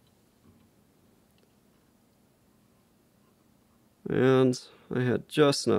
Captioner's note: thread whirling